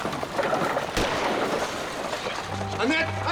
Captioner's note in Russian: выстрел